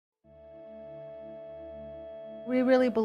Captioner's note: rising tone playing